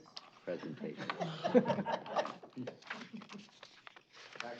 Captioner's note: laughter